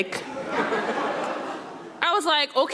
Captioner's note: audience laughing